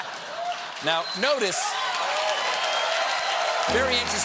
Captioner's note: cheers and applause